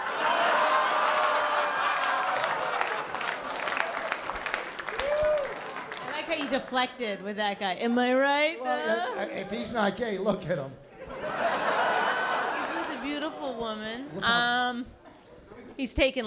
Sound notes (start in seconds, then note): 0.0 laughter; 5.1 applause; 10.9 laughter